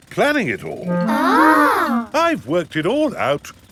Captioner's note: children gasp in awe